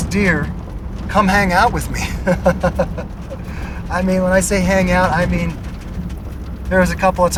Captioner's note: laugh